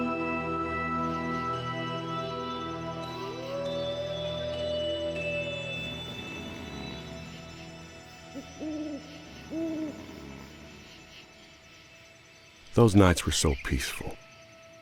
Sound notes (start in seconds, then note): 2.7 wolf howling; 5.4 cows snoring; 8.6 owl hooting; 9.0 Clementine snoring